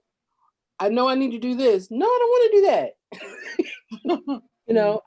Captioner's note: laughs